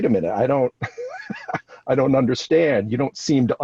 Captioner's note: laughs